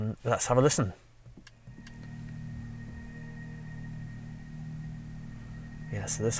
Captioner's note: car EV Ambient Sound